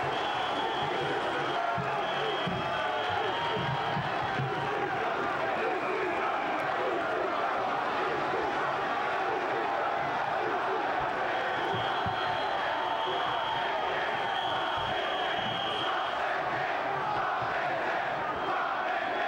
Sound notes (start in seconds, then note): 0.0 whistle blowing; 0.4 crowd cheering; 5.8 crowd chanting; 11.4 whistle blowing